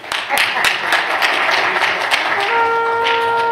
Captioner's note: applause